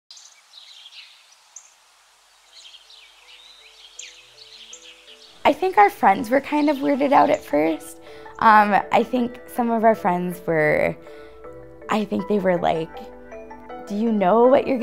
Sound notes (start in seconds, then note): 2.2 birds chirping